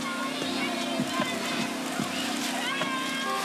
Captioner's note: calm music; shouting